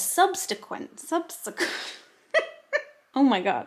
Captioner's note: giggling loudly